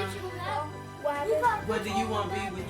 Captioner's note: overlapping chatter